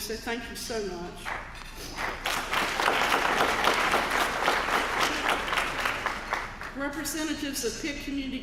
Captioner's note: applause